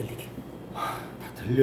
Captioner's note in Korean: 한숨